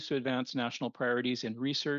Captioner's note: speaking French